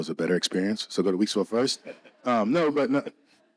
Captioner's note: laughing